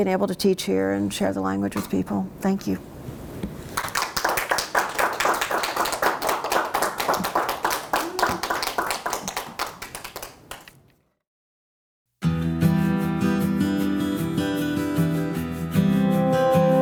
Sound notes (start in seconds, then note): 3.7 applause; 12.1 closing music